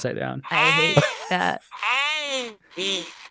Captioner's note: Coco babbling